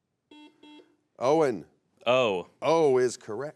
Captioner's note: buzzer beeps